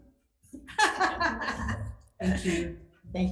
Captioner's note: laughing